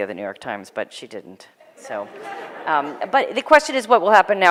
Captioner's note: laughter